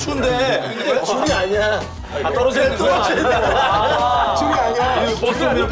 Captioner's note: hehehe